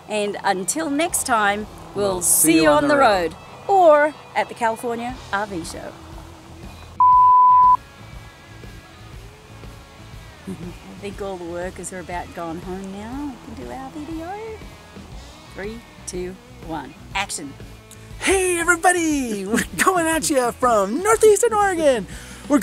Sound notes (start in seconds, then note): 6.9 electronic beeping; 8.1 rock music